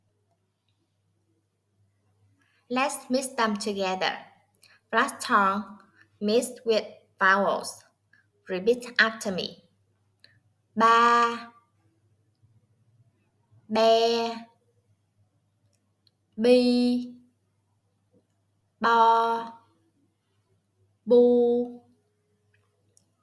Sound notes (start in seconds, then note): 12.0 Vietnamese